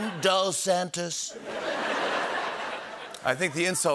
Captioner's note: laughter